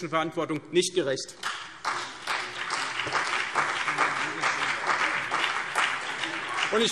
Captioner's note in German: Beifall CDU und vereinzelt BÜNDNIS 90/DIE GRÜNEN